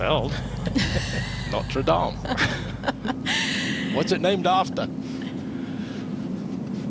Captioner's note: laughter